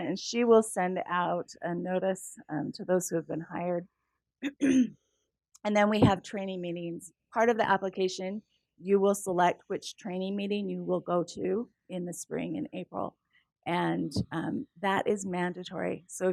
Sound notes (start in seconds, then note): 4.4 cough